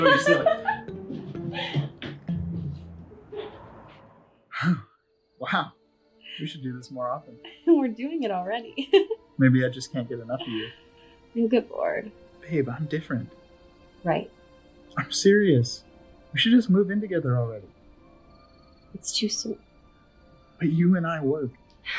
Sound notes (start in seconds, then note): 0.0 Kat laughing; 0.0 light music; 9.4 laughs